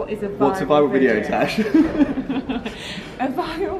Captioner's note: laughs